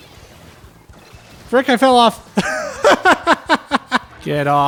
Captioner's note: laughter